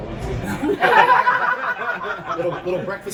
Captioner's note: laughter